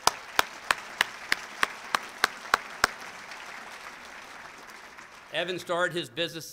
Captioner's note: applause